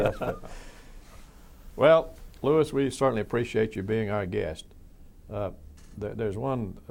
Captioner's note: laughs